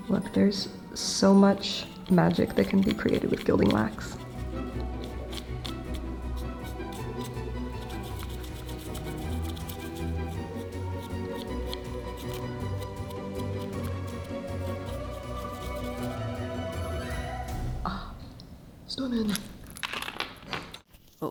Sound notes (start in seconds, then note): 4.5 brush continues rustling; 4.5 lively orchestral music